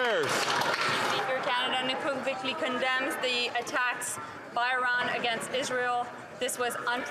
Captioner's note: some Applause